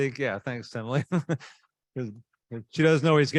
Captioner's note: laughing